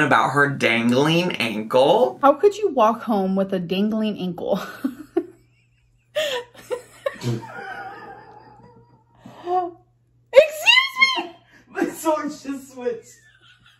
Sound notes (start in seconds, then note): 6.0 laughs